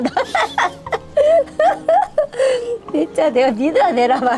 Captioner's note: both laughing